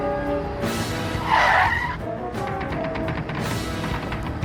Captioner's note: tires squealing